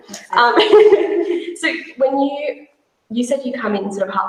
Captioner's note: laughs